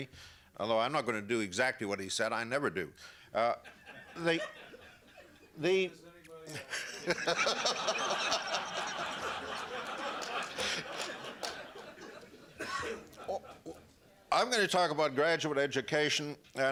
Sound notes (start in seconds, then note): 3.6 laughter